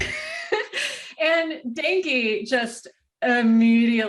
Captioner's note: wheeze